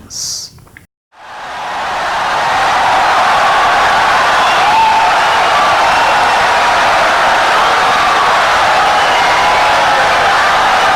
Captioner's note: wild applause and cheering for 17 seconds